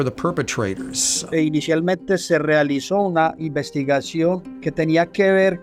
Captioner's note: speaks Spanish